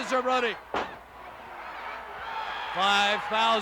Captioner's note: crowd yelling